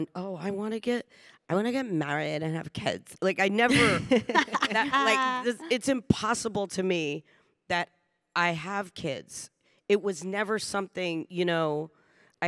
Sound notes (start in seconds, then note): 3.7 panelists laughing